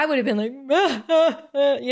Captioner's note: crying